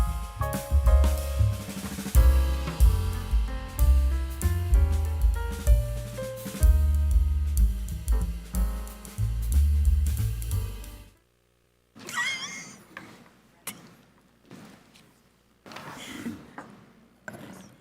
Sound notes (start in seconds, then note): 12.0 board member laughing